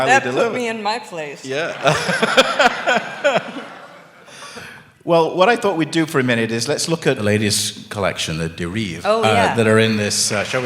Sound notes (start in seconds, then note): 1.7 laughter